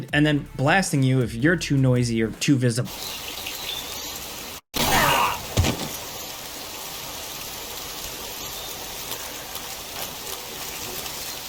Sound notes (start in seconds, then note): 3.5 insects buzzing; 4.8 character groaning